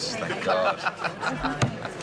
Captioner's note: chuckles